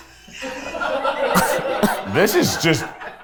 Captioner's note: everyone laughs